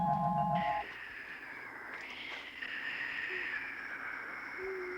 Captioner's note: crystal chiming; Sleestack hissing